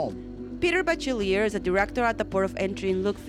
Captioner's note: voiceover